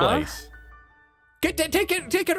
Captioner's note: stammers